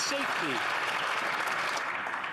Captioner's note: some Applause